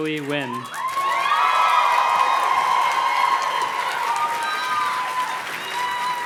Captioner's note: audience cheers and claps